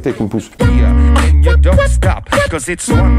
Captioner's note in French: beatbox